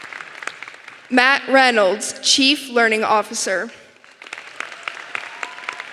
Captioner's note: applause